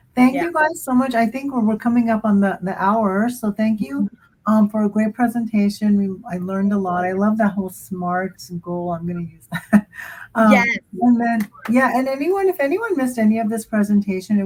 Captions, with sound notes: Thank you guys so much. I think we're coming up on the hour. Thank you for a great presentation. I learned a lot. I love that whole SMART goal. I'm going to use that. [chuckles] If anyone missed any of this presentation,